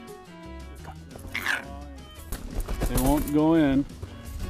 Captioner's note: fox yips